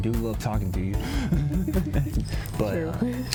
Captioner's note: both laugh